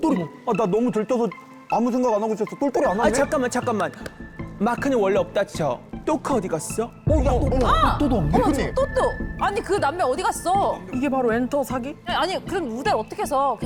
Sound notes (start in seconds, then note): 7.1 unauthorized absence sound effect